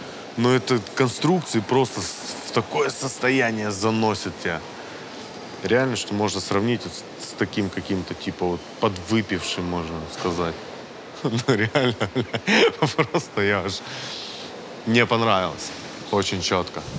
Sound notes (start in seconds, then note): 11.2 laughs